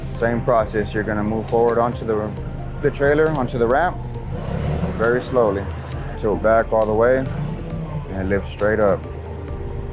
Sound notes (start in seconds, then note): 7.3 lift engine roars